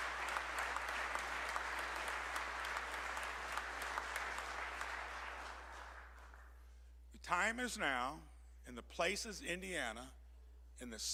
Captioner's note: applause